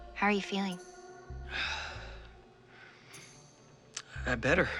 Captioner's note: sighs